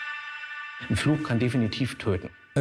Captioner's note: speaks German